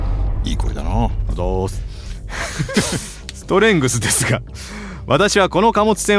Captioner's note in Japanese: 笑い